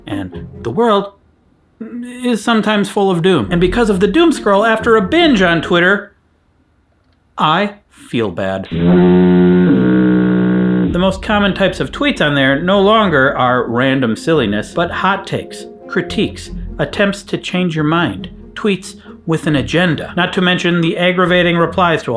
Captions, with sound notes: and the world is sometimes full of doom. And because of the doom scroll, after a binge on Twitter, I feel bad. (sad fog horn) The most common types of tweets on there no longer are random silliness, but hot takes, critiques, attempts to change your mind, tweets with an agenda. Not to mention the aggravating replies